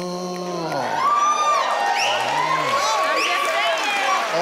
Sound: audience cheering and whistling

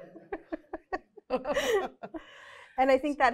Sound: laughter

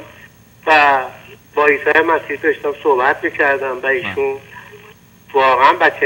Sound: speaking in foreign language

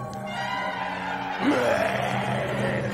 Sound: growling

